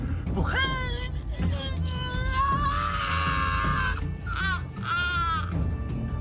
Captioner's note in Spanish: Grito